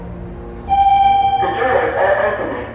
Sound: elevator chime

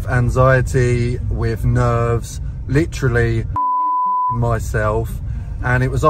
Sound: beep

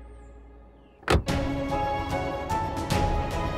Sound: car door closes

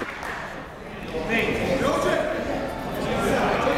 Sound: chatter

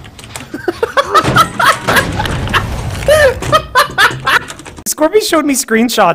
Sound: laughing

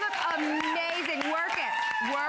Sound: applause

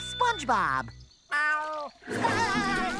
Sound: meowing; laughing, meowing

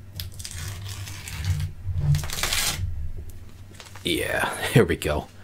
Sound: peeling noise

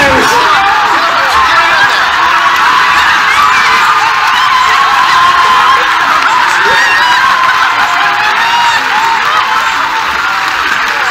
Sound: excited crowd

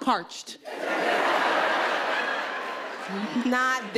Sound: audience laughing

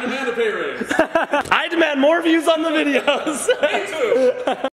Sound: laughs

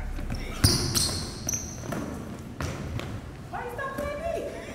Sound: dribbling sounds

